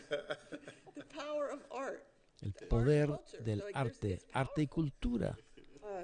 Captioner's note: laughter